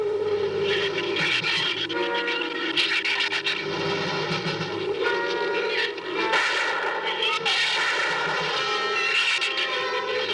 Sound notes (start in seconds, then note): 7.4 gunshots